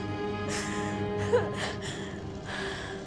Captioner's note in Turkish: Ağlıyor